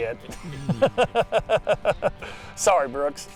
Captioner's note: laughing